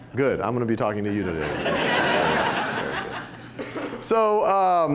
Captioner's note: laughter